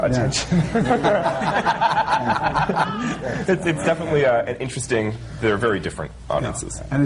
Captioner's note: laughter